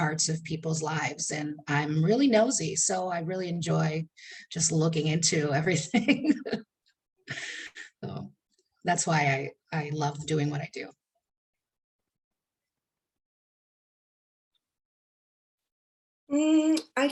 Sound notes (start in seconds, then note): 7.3 chuckling